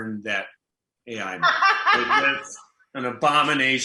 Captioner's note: laughs